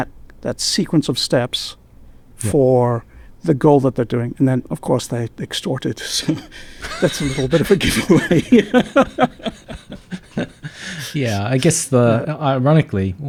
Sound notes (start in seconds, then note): 9.5 laughing